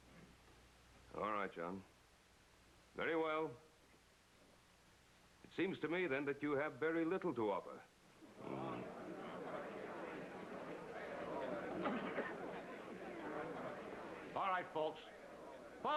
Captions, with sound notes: ALL RIGHT, JOHN. VERY WELL. IT SEEMS TO ME THEN THAT YOU HAVE VERY LITTLE TO OFFER. ( crowd murmuring ) ALL RIGHT, FOLKS.